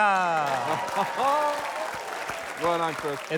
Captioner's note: applause